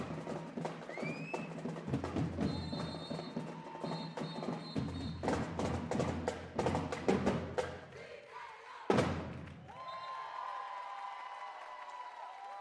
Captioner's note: cheers and applause